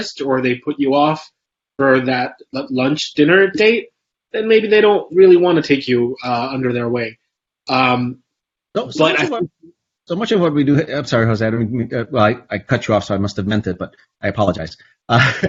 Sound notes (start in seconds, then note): 8.6 stammers; 15.1 laughs